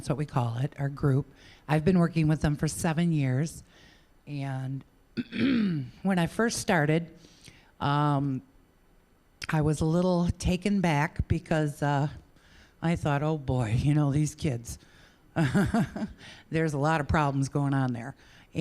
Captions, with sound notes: THAT'S WHAT WE CALL IT, OUR GROUP. I'VE BEEN WORKING WITH THEM FOR SEVEN YEARS, AND... (clearing throat) WHEN I FIRST STARTED, UM... I WAS A LITTLE TAKEN ABACK BECAUSE I THOUGHT, "OH, BOY, YOU KNOW, THESE KIDS." (laughing) THERE'S A LOT OF PROBLEMS GOING ON THERE,